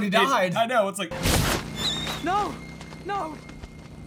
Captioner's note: saddest owl sound of pain ever I hate it